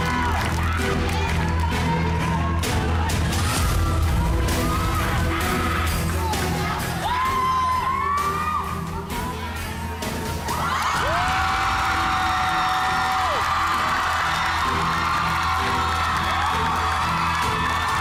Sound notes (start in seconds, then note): 7.3 crowd cheering; 10.4 crowd screaming, applauding